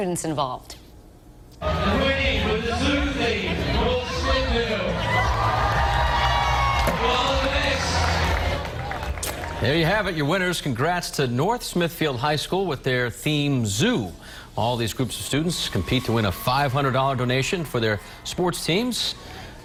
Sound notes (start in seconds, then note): 7.8 applause